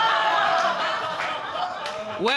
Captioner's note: audience laughing